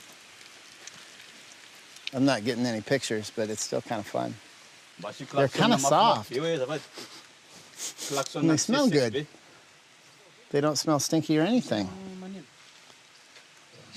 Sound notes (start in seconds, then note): 7.6 sniffs